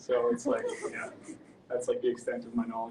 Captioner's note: audience laughs